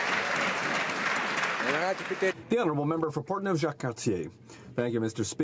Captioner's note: some Applause